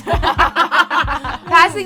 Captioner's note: all laugh